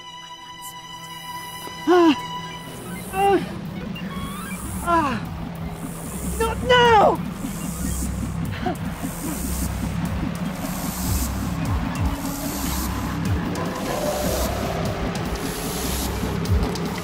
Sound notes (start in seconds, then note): 1.8 cries in pain; 10.5 techno music